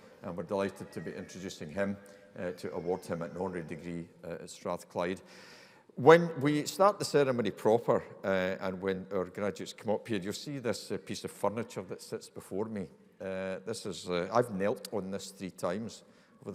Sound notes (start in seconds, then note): none